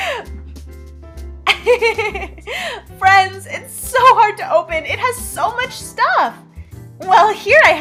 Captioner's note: laughs; laughs